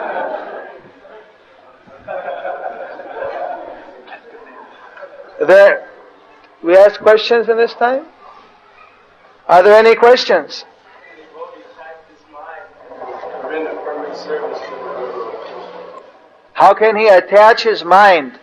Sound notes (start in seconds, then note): 4.9 devotees laugh